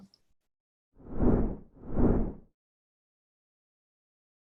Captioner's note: whoosing